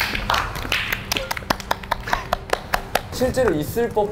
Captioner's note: clapping with all their hearts on their works